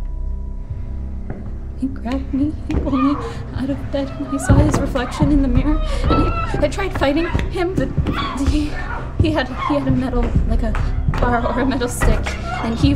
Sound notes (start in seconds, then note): 2.8 lady in background screaming; 7.2 lady in background screaming; 8.1 stammers